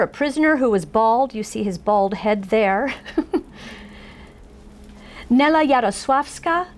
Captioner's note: laughs